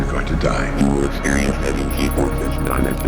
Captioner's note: robotic voice